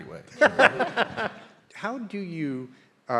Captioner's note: audience laughing